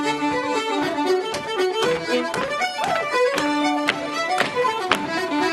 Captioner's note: boots stomping